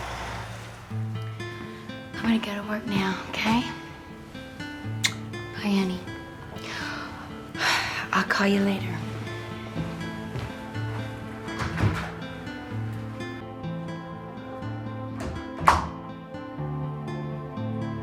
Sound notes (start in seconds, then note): 1.3 brooding music; 6.4 sighs; 11.5 door clicks; 15.2 door bangs